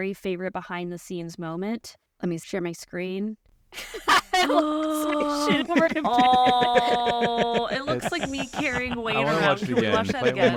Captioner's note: laughter